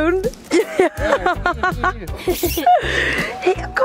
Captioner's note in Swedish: Skratt